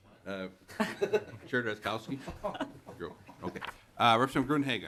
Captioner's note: laughter